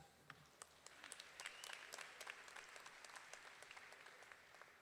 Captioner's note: audience applauding